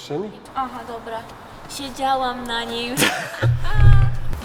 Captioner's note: laughs